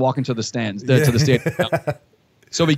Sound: laughter

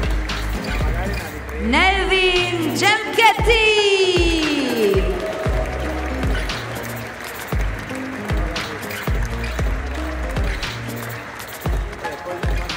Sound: applause; applause

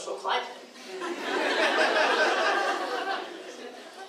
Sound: laughing

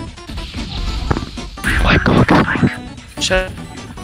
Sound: whispers

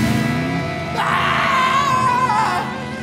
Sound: screaming

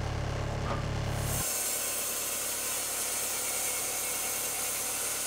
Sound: saw revving

